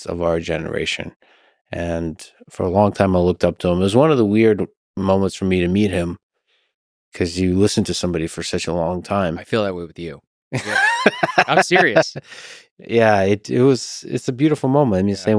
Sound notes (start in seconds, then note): 10.6 Lex laughing